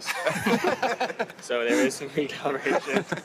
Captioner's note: all laugh